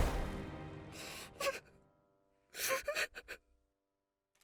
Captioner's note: crying